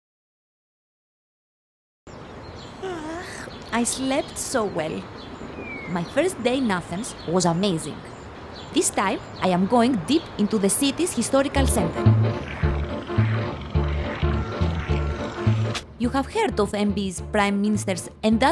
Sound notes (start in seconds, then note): 2.8 woman yawns; 11.4 playful music